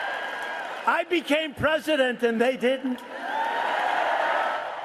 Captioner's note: cheering